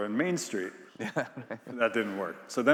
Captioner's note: laughs